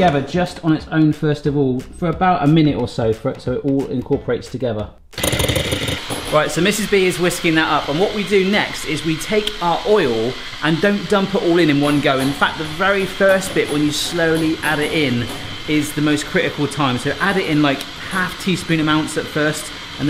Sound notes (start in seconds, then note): 5.4 blender whirs